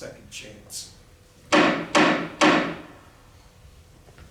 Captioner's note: gavel